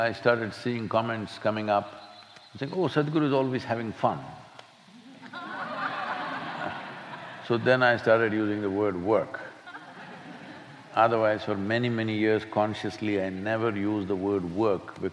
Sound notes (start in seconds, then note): 5.0 laughter